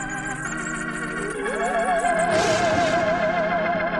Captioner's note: scary music; thunder